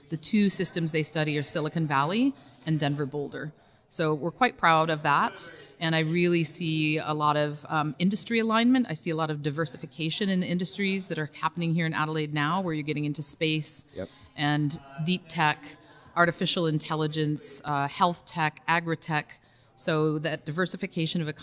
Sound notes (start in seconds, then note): none